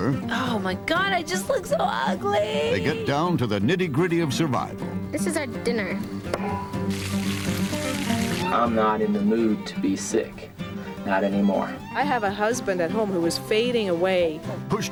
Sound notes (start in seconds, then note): 6.8 sizzling